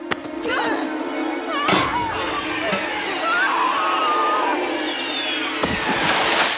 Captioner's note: Connie screaming